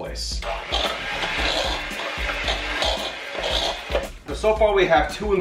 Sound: mixer whirling

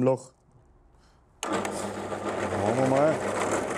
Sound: loud rattling

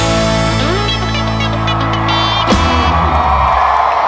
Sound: audience cheering

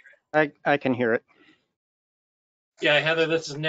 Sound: deep Voice

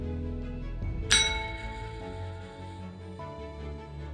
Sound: bell rings

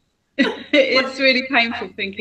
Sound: laughs

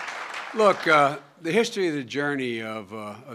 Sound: applause

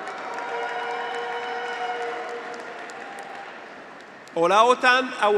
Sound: graduates cheer; audience applauds

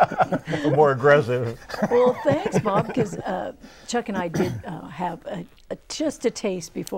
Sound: laughing

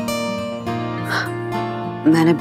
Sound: sighs

